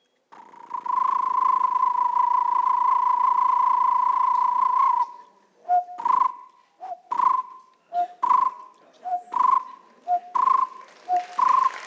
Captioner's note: sound of the Barbet bird